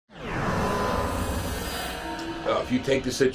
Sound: swooshing

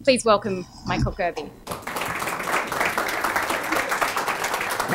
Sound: applause

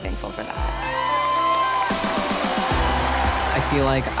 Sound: students Screamed

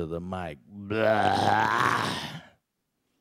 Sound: makes evil sound into the mike

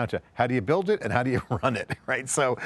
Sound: laughs

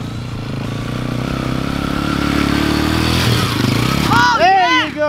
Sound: dirt bike engine revving

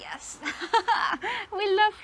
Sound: laughs

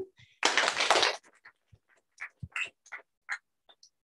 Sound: applause

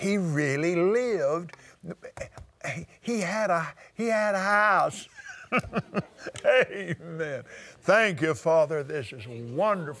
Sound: laughs

